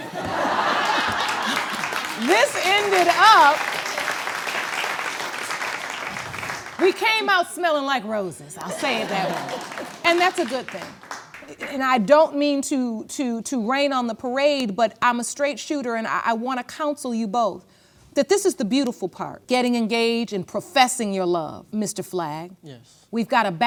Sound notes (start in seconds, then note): 0.0 all laugh; 4.2 applause; 8.6 audience laughs